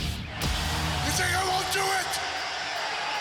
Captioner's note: crowd cheering